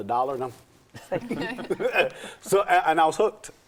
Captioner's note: laughing